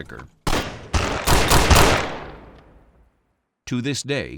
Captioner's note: shooting